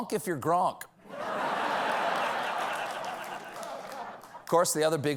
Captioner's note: laughter